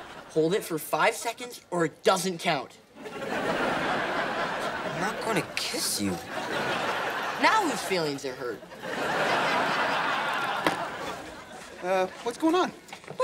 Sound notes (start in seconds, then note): 3.0 laughing; 8.4 laughing